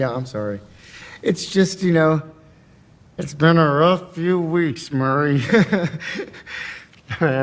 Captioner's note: laughing